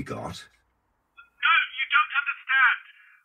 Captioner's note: on phone